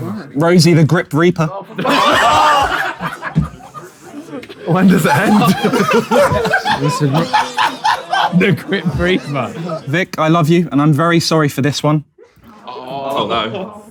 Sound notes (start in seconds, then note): 1.6 people in room laughing; 7.4 KSI laughing; 12.8 people in room groaning